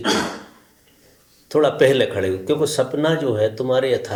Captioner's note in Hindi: गला साफ़ करने की आवाज़